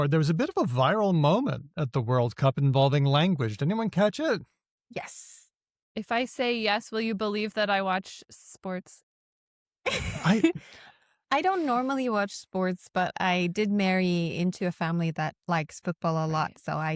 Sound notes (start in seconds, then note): 9.8 chuckles